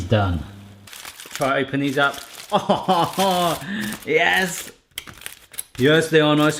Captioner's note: laughing